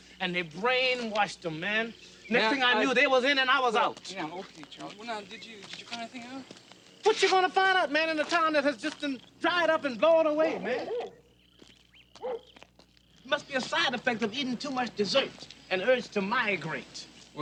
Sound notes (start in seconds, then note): 12.2 dog barking